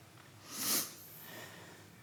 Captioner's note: sniffs